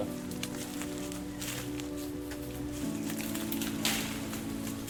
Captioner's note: leaves rustling